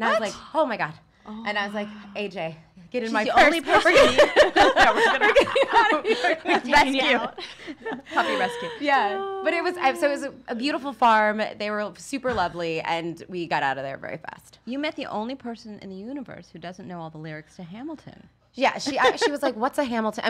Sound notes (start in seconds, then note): 3.6 women laughs; 18.2 laughs